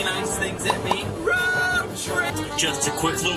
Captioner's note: text popping